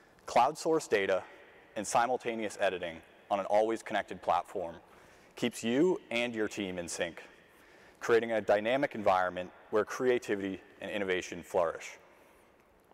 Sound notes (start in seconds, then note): none